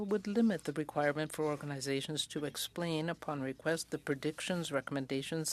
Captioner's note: speaking French